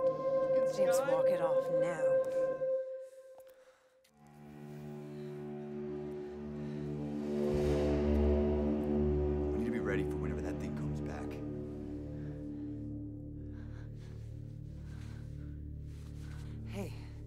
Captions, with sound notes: James, walk it off now. - The fucking sky. (light dramatic music) - We need to be ready for whenever that thing comes back. (heavy breathing) - Hey.